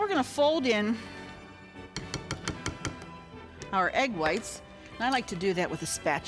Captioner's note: spatula knocks